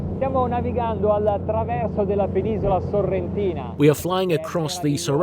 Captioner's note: speaking in foreign language